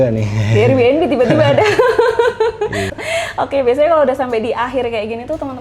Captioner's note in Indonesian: tertawa